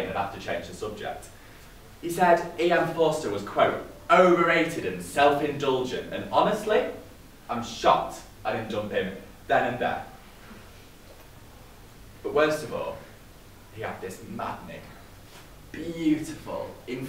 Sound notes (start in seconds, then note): none